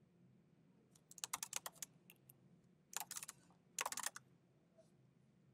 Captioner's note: keyboard clacking continues